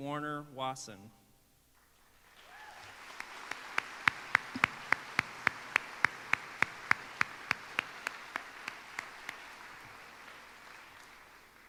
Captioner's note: applause